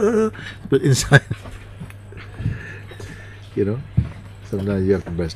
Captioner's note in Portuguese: Risos